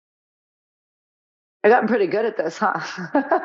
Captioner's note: laughing